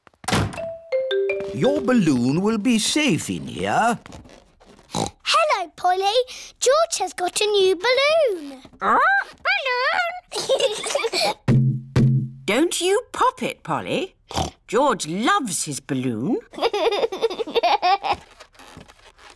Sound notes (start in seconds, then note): 4.8 snorts; 10.2 both giggle; 14.3 snorts; 16.6 laughs